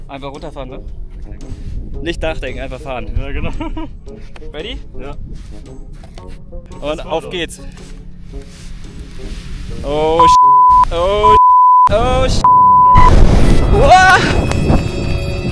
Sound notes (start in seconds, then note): 10.1 toot